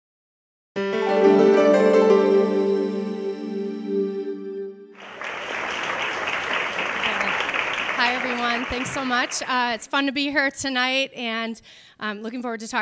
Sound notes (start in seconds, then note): 0.8 upbeat piano notes; 4.9 audience applauding